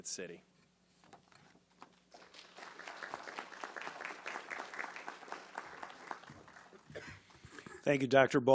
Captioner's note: applause